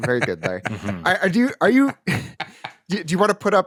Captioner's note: laughter